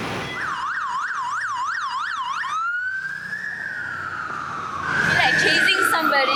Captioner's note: police siren